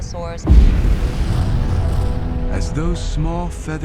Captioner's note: volcano roaring